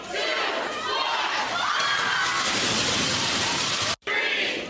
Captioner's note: cheering